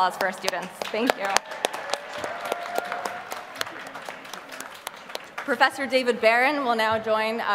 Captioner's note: applause